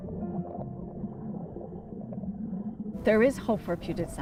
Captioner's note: water burbling